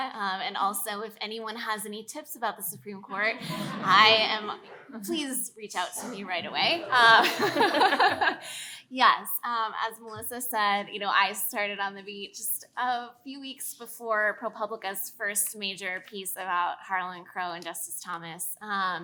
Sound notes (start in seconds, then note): 3.2 audience laughs; 5.8 laughs